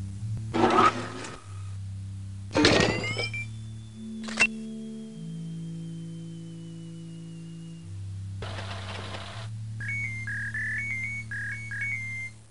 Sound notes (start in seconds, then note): 0.5 servos whirring; 4.2 camera shutter